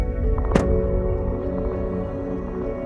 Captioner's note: gentle electronic music; car door closing